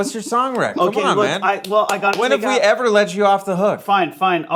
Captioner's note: clapping